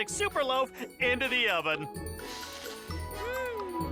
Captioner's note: deep inhale and exhale